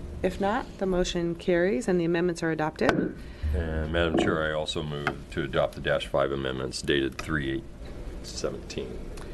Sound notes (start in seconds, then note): 3.4 gavel bang